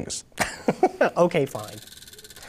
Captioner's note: laughs